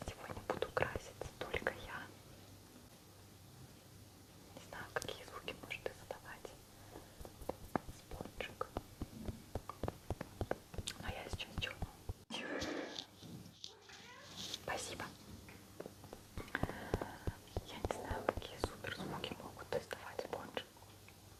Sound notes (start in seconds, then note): 13.8 meeow